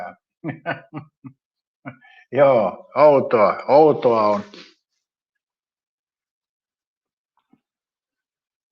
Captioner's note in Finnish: naurua